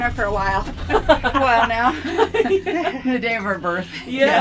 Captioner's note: all chuckling